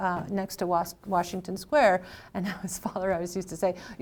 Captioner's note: laughs